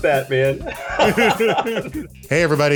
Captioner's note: everyone laughs